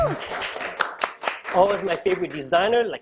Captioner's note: clapping